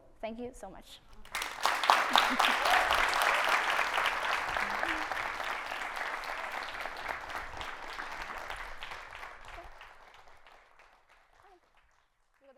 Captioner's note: clapping